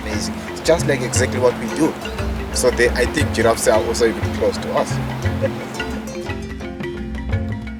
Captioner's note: laughs